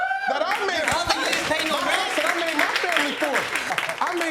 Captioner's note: audience applauding